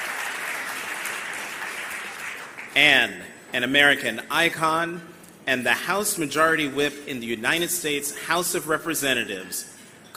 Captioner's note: applause